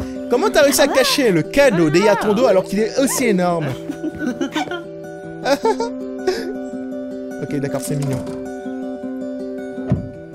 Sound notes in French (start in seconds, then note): 5.4 Imite leurs rires